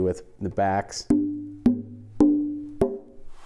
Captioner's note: tapping on guitar